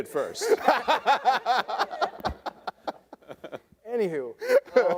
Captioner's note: debaters laughing